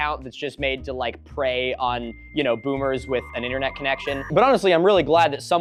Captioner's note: dial up tone